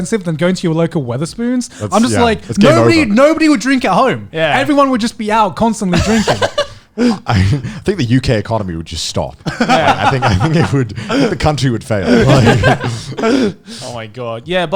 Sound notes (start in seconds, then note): 5.9 laughing; 9.4 laughing